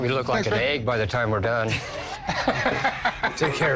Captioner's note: laughs